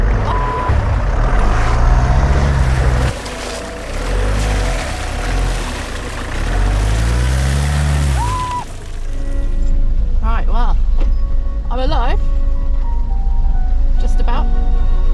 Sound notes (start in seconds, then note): 1.1 revving; 2.1 sliding in the mud; 7.8 shrieking